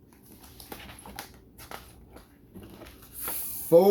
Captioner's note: paper rustles